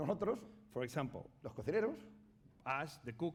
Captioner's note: speaking spanish; speaking spanish